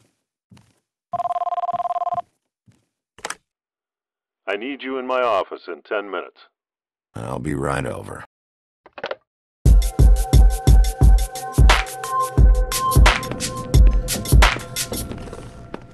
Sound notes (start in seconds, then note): 1.0 ringing Continues